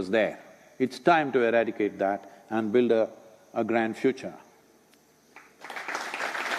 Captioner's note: applause